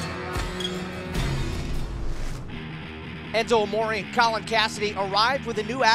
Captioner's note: crowd cheering